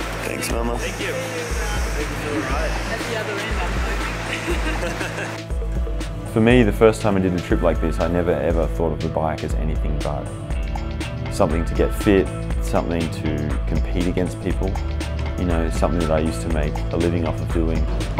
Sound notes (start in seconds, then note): 4.2 laughter